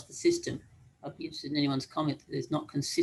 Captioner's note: speaking faintly